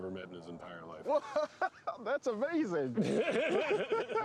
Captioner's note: laughing